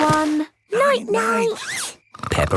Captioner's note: snores